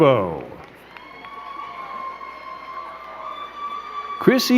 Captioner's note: crowd cheering and clapping